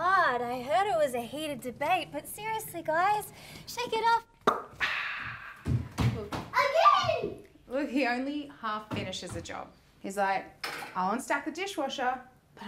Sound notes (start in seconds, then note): 4.4 makes popping noise; 5.6 footsteps thudding